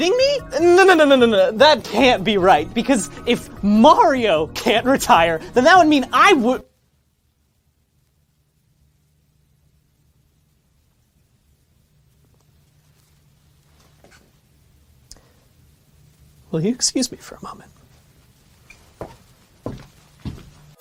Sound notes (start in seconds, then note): 6.1 the painful silence of Realization